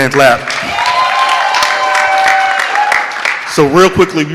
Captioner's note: audience clapping